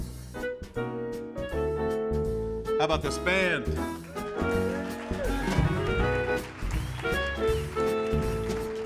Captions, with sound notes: How 'bout this band? (audience cheers and applauds)